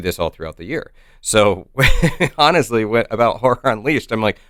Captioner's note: chuckles